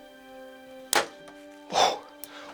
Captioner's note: bowstring thuds